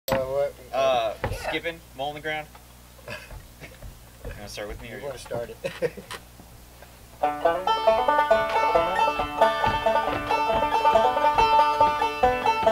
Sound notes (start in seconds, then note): 1.3 man murmuring; 3.0 man chuckles; 5.4 man laughs